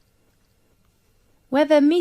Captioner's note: 5 seconds pause